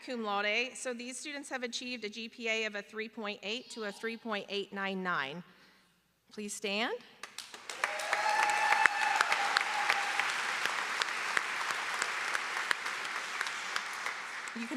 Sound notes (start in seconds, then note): 9.8 applause